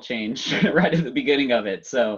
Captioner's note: laughs